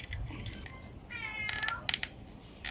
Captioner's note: cat meow